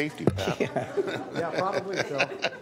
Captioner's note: laughter